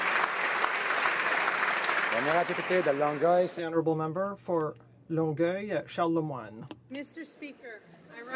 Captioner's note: applause